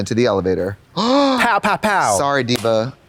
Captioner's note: Trixie gasps